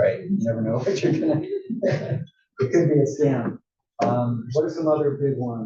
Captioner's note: laugh